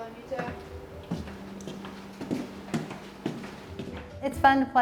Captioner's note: footsteps plodding